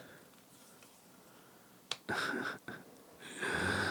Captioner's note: laughing